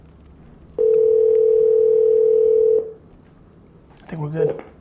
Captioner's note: phone ringing